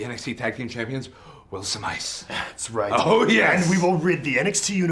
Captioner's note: none